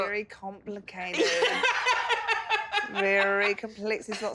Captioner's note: laughs loudly